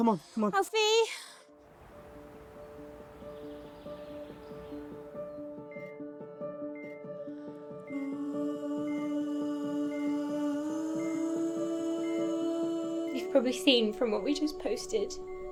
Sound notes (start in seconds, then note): 1.7 birds chirping; 1.9 pensive music; 5.9 monitor beeping